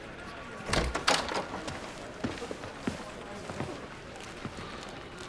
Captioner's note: door rattling